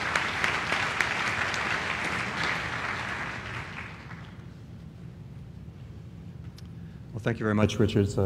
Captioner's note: applause